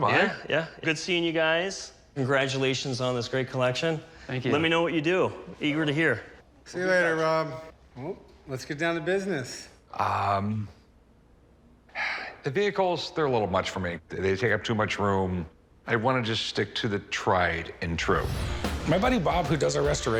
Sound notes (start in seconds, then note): 11.9 sighs